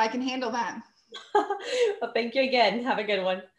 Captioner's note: chuckles